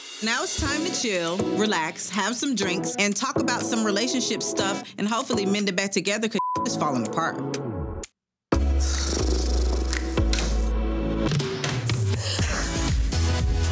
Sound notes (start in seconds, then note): 6.4 beep; 11.0 upbeat music